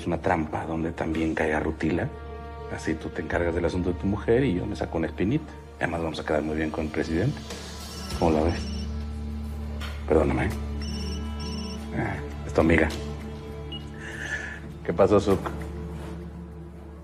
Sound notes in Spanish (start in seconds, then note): 7.9 Suena el celular